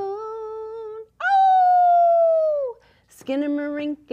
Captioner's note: howls